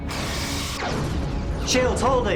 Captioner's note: explosion